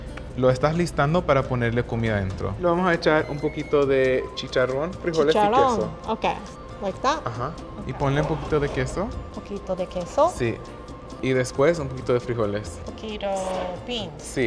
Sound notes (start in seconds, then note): 0.2 speaking Spanish; 5.2 speaking Spanish